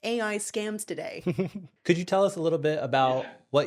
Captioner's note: laughing